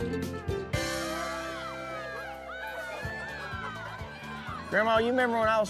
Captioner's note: children shout playfully